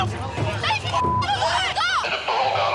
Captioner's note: yelling; beep